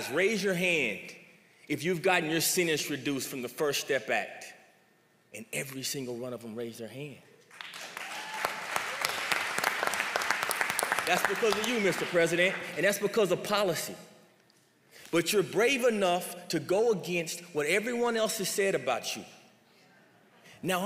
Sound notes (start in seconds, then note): 7.5 applause